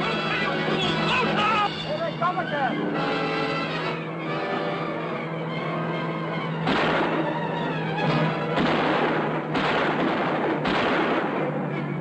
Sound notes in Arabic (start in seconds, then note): 6.5 طلقات نارية